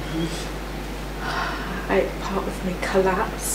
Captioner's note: sighs